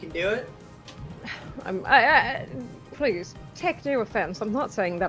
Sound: stammers

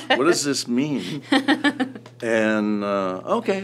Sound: laughs

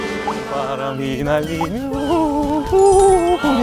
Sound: slow and peaceful seagulls

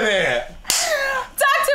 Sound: gasps

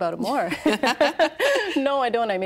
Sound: laughing

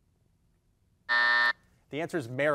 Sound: buzzer dings

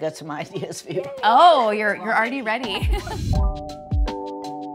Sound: chuckles; gentle upbeat music

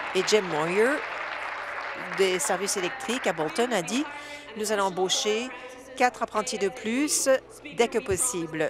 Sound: applause

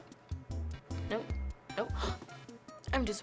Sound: gasping

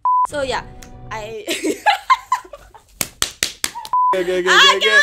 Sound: laughs

